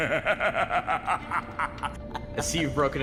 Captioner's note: laughing